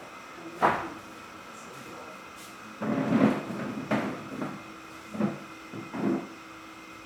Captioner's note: machinery humming